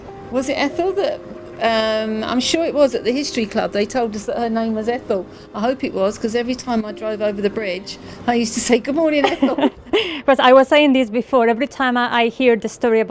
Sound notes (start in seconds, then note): 9.2 they laugh